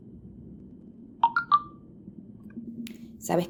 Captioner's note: message alert tone